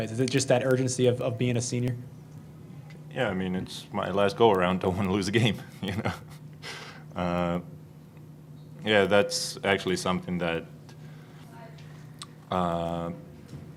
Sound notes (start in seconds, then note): 5.8 laughing